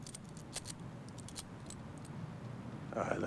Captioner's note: rattles handcuffs